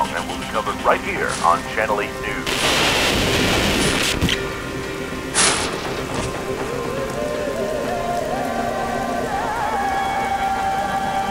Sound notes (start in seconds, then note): 3.7 radio cutoff; 5.3 impact on chainlink fence